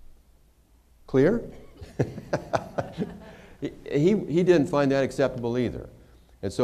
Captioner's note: laughter